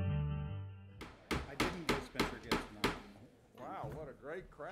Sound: gavel pounding

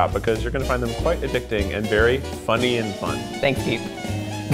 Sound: laughing

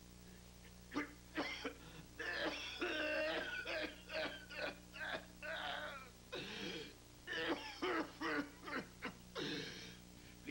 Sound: defeated coughing

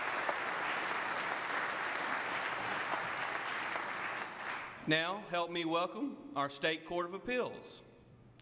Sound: applause

